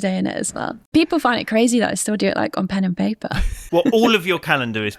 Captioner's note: chuckles